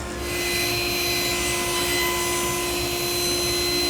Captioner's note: cutter whirring